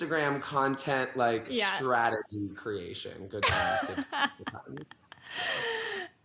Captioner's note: laughs